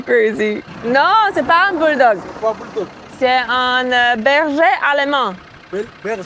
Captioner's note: speaking in a foreign language